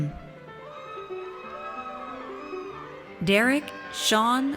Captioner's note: audience cheers